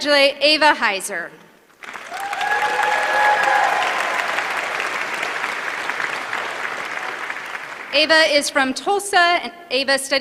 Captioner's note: applause